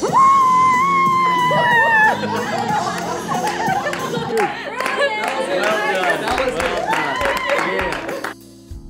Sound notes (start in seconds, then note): 1.2 laughing; 2.1 clapping; 5.4 group celebrating